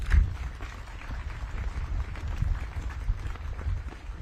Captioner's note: audience claps